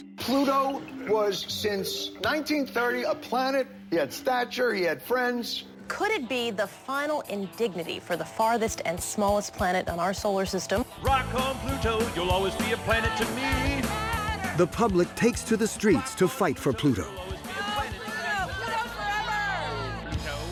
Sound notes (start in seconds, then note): 11.1 chanting; 17.3 protesters chanting